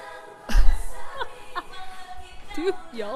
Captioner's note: laughing cuz suddenly remembered something